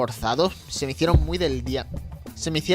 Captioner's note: hits mic